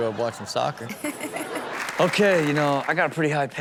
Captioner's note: crowd laughs; Chanel laughs; crowd applauds